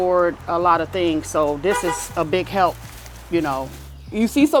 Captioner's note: car horn beeps